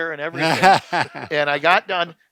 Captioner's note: men laughing